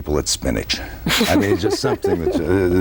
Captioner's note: laughs